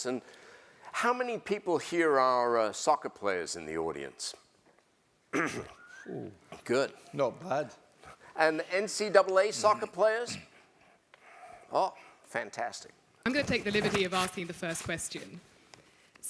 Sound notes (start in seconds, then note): 5.3 cough